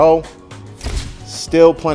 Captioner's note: camera shutter clicking